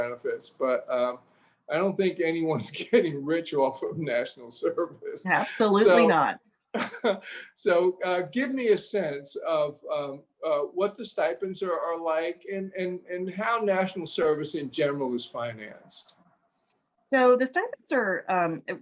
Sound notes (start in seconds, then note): 1.8 chuckles; 6.7 laughs